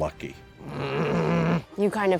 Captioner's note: angry grumbling